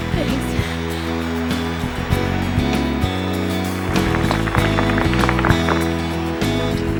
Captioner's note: audience applauding; dramatic music